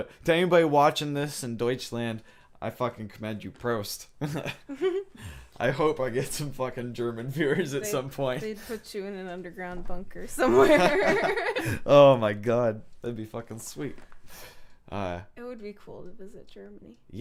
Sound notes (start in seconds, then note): 10.5 laughing